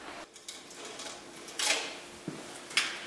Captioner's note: click, clack